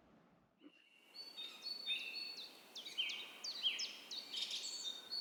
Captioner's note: nature Noises